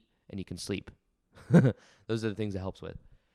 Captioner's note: host chuckles